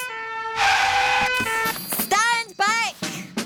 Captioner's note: siren blaring